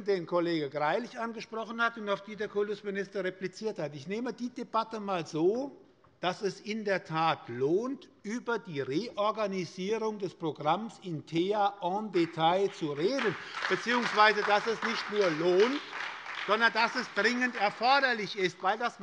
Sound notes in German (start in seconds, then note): 12.1 Beifall bei der SPD und bei Abgeordneten der FDP